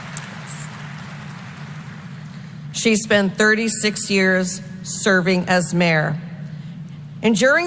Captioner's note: applause